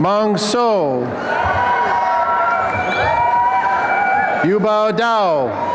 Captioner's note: applause and cheering